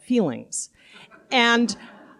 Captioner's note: laughter